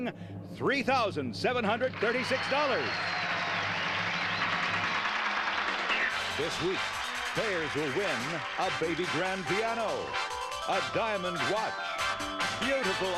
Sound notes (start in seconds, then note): 1.9 audience applauding